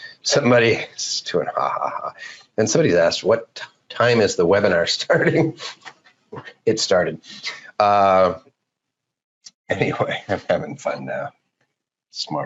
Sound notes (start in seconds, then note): 5.1 laughs